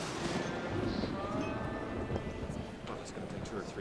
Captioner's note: thunderclap